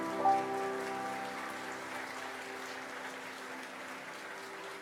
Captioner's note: audience applauds